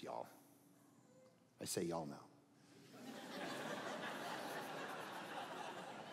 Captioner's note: audience laughing